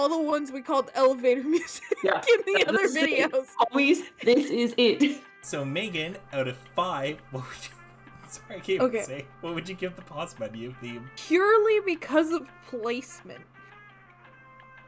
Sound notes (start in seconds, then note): 6.5 laugh